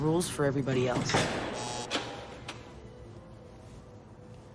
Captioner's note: door latching & buzzer